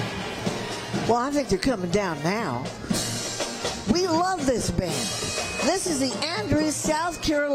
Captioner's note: applause